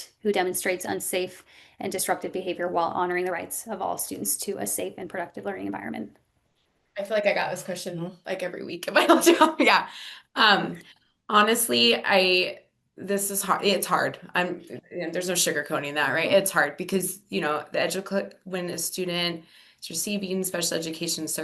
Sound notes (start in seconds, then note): 9.4 laughs